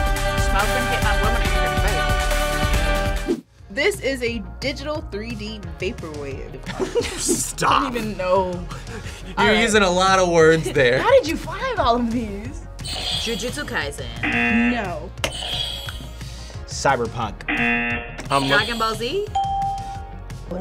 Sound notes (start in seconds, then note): 6.7 laughs; 14.2 buzzer; 14.2 buzzer rings; 17.4 buzzer; 17.4 buzzer rings; 19.3 bell rings